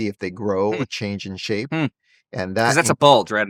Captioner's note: hums